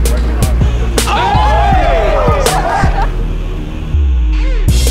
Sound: crowd cheering

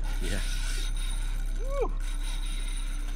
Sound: fishing pole reel unwinding

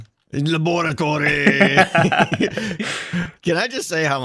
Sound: both laugh

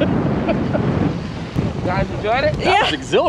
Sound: laughing

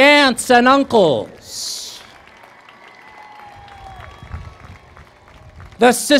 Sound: applause

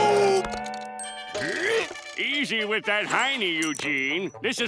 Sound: grunting

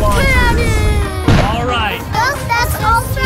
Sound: cannon booms

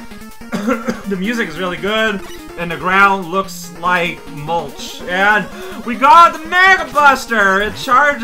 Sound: coughs

